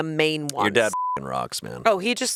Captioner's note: beep